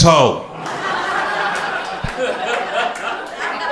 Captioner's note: crowd laughter